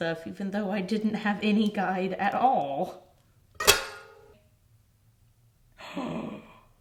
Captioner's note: cutter clunks